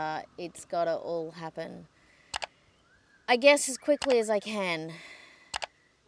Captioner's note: sighing